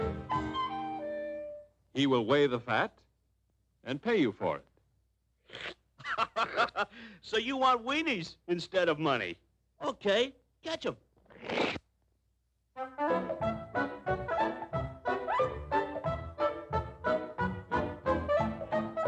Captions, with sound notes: He will weigh the fat and pay you for it. (Laughs) So you want weenies instead of money, OK. Catch 'em. (Upbeat Music)